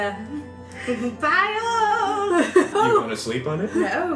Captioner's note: laughs